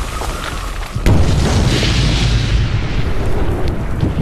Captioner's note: gravel crunching; explosion booms